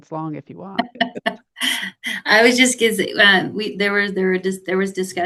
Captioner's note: laughs